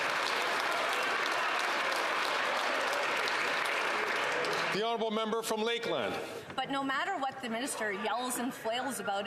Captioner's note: some Applause